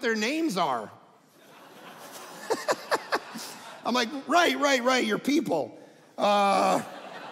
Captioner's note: audience laughing